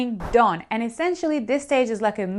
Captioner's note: air whooshing